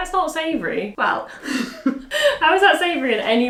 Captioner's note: laughs